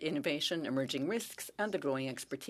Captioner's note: speaking French